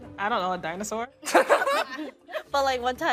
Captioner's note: all laughing